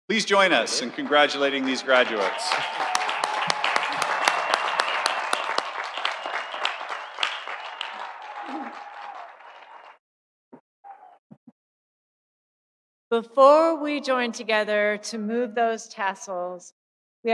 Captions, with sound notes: - Please join us in congratulating these graduates. (audience cheering) (audience applauding) - Before we join together to move those tassels,